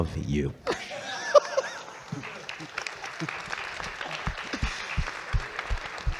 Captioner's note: audience clapping and laughing